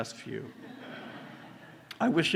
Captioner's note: laughter